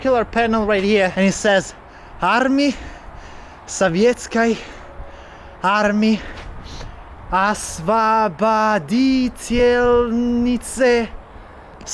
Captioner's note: russian